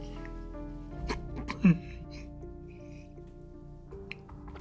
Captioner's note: sobs